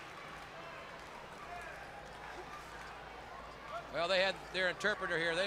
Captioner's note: crowd chatter